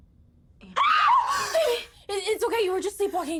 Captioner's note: screams